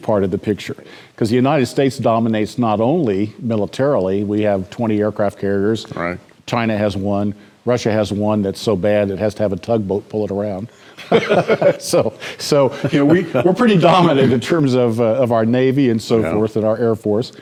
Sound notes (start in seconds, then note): 11.0 laughter